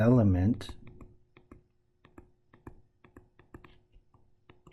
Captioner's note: tapping Sounds